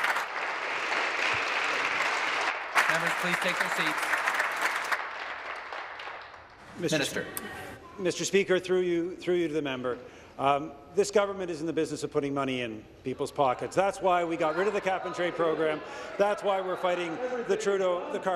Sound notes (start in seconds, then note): 0.0 applause